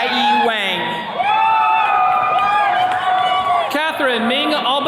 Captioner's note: attendees cheering